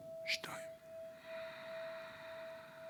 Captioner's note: exhale